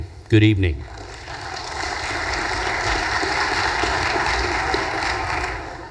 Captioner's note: audience applause